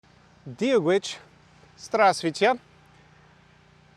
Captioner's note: in Irish & Russian